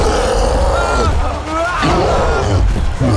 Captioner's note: screams